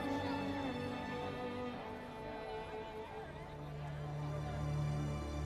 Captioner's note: people softly chatter